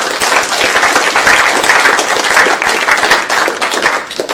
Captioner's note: applause